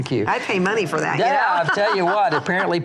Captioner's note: laughs